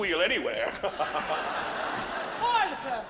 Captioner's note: audience laughing; laughing